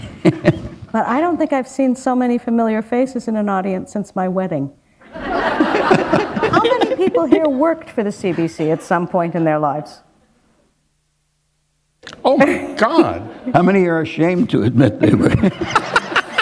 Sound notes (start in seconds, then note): 5.0 laughter